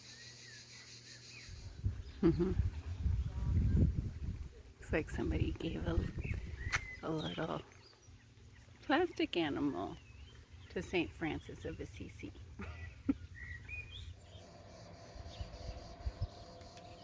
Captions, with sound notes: Trasimeno. [chuckles] It's like somebody gave a little plastic animal to St. Francis of Assisi!